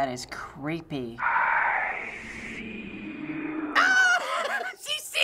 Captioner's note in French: voix chuchotante; rire